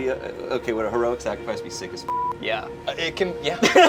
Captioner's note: beep